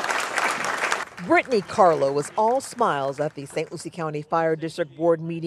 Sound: applause

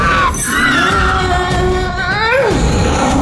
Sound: Brutus Roars!; Cameron verbally struggles; Brutus Roars!

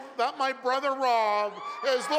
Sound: cheers and Applause

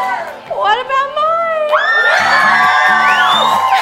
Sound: cheering

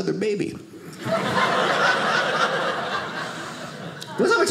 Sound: audience laughing

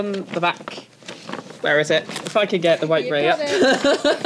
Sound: laughs

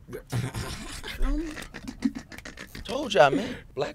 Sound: laughing

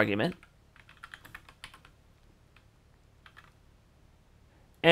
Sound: keyboard clicking

